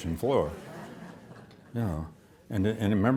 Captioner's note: audience laughs